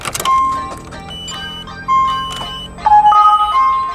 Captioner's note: beeping